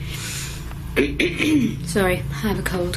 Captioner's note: clears throat